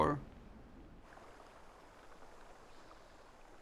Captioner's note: river flowing